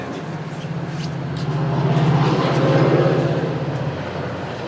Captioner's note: train speeds